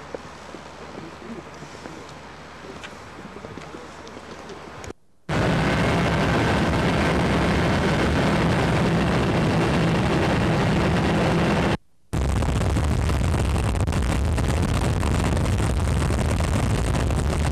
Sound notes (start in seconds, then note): 5.2 sound of heavy wind; 11.8 sound of helicopter propellers